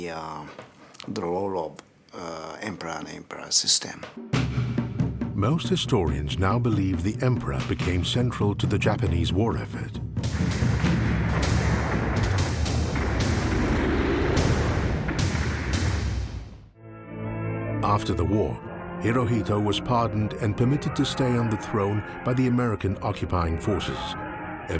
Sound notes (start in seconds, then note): 10.2 explosions booming; 10.6 dramatic music